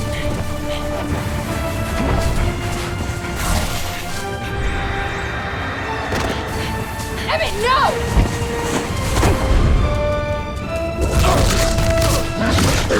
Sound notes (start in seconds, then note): 11.1 grunting